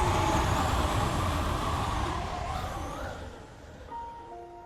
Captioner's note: zapping ends; soft melancholy music